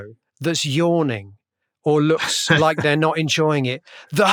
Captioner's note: laughter